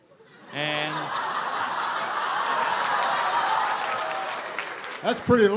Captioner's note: laughter